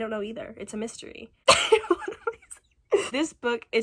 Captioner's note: laughing